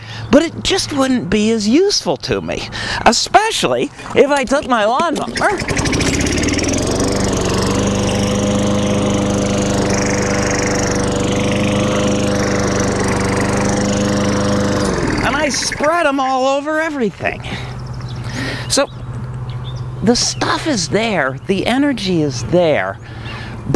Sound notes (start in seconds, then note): 5.8 lawnmower roars